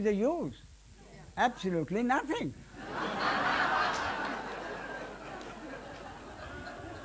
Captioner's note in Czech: smích